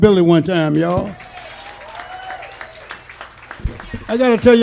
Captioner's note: audience cheering and laughing